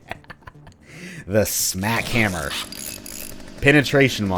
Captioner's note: tinkering sounds